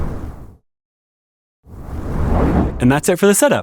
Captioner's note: whoosh